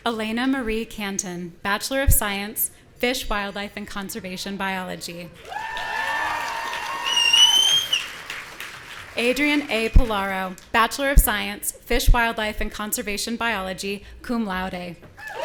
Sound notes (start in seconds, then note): 5.4 audience cheering; 15.2 audience cheering